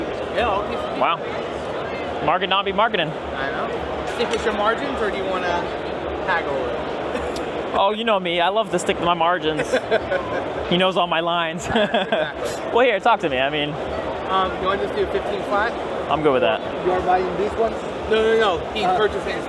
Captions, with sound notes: Wow, market, not be marketing. I know. If it's your margins or do you wanna tag over it? Oh, you know me, I love the stick to my margins. (laughing) He knows all my lines. I know exactly. Well, here, talk to me, I mean. I'm good with that. No, no, no, no, he's purchasing.